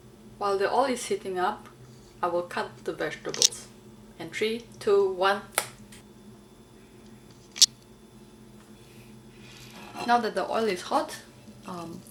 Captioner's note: snap